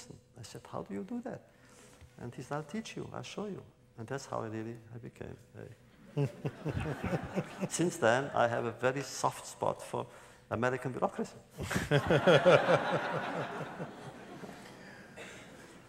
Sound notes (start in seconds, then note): 6.0 laugher; 11.6 laughter